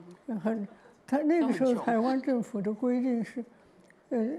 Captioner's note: Mandarin